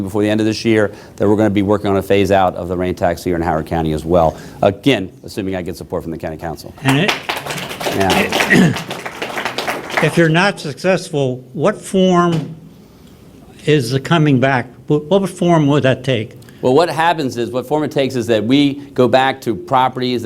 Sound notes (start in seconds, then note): 6.8 applause